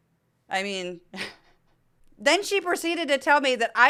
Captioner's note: laugh